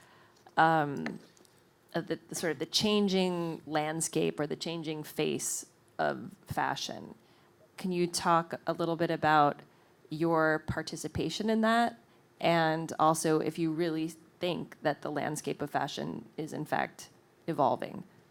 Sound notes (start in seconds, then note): none